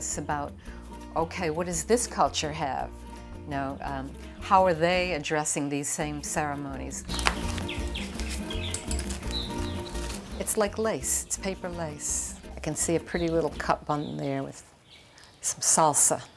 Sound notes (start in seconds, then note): 7.0 cutting paper, birds chirping in background